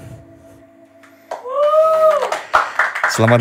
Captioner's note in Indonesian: tepuk tangan penonton